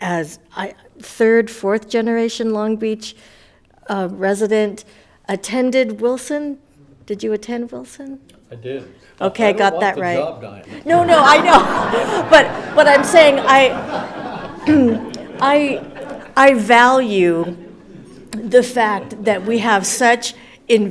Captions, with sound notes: as third, fourth generation Long Beach resident, attended Wilson, did you attend Wilson? I did. Okay got that right. I don't want the job, Diana. No, no, I know. (everyone laughs) But I'm saying I, I value the fact that we have such invested people